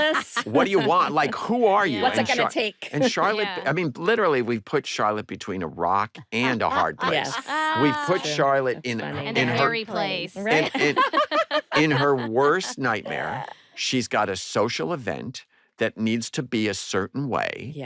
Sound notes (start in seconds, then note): 6.3 laughs; 10.3 laughter